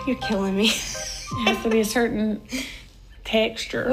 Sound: laughing

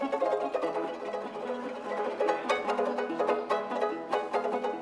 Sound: audience laughing

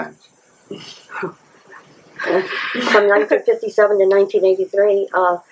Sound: laughter from about the question

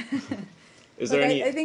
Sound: laughter

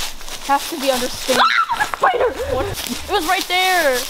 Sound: screams

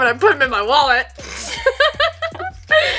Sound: laughs

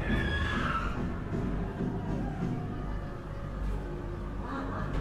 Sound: haunted house creatures chattering

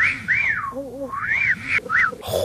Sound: reversed wolf whistling; wolf whistling from off screen; sluuuuuuuurp

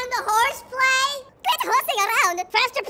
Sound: high pitched

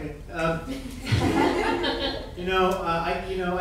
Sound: audience laughing

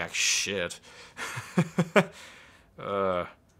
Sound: laughing

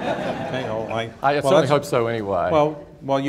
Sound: laughter

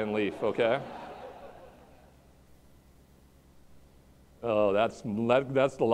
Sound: laughter

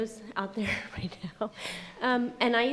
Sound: laughing

